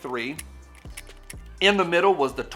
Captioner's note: gun clicking